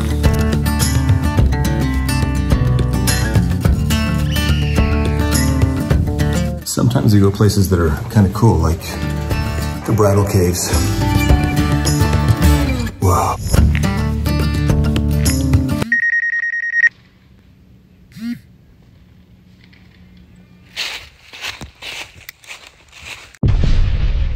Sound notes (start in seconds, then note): 0.0 whimsical music continues; 3.9 bird chirping; 15.8 phone vibrating; 15.8 phone ringing; 20.4 dry leaves crackling